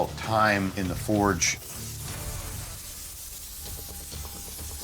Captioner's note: torch hissing